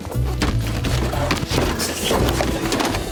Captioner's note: books fall